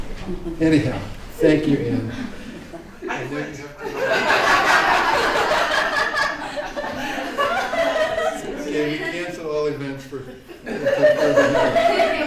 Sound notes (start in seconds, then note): 3.6 laughter